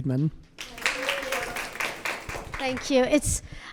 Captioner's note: audience clapping